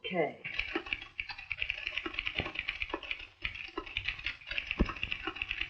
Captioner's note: typewriter keys clacking